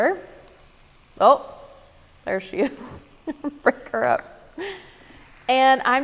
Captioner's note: laughing